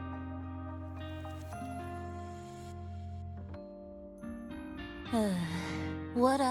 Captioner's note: sigh